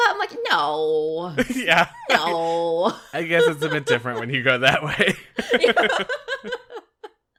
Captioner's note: laughs